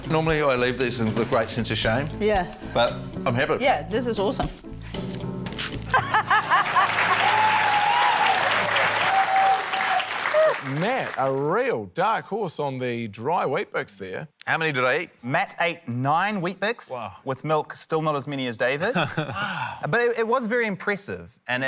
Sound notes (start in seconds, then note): 5.9 laughs; 6.1 cheering, applause